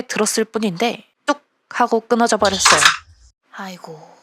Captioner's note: snap!